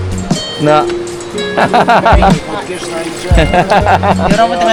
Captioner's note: laugh